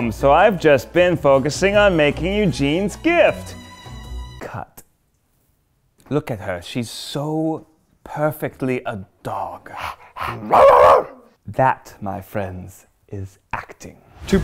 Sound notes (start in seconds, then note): 9.7 panting; 10.2 barking